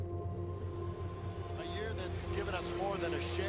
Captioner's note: crowd cheering